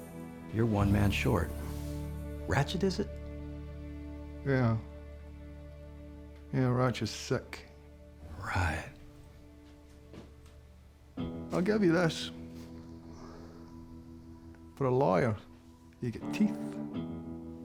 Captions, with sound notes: YOU'RE ONE MAN SHORT... RATCHET IS IT? [SCOTTISH ACCENT] YEAH... YEAH, RATCHET'S SICK. [SAYS SARCASTICALLY] RIGHT. [SCOTTISH ACCENT] I'LL GIVE YA THIS... FOR A LAWYER, YOU'VE GOT TEETH.